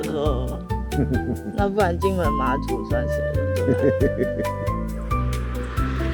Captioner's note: laughs